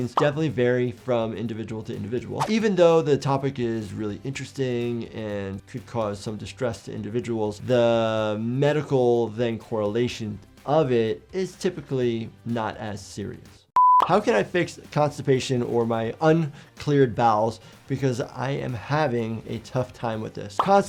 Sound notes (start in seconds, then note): 13.7 screen beeping